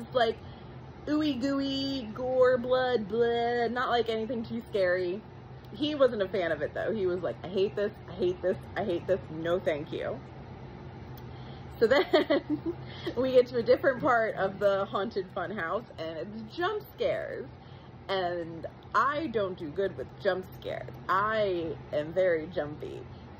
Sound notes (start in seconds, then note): 11.8 giggles a bit